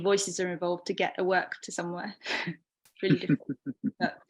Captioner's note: both chuckling